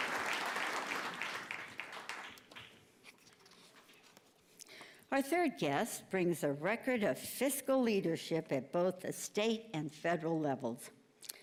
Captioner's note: applause